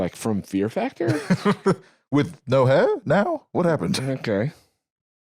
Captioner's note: laughs